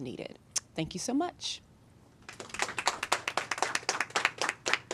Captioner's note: applause